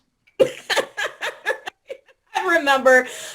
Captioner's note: laughter